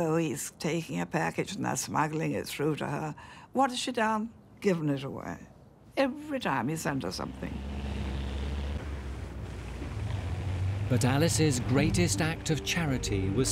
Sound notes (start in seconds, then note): 6.8 engine humming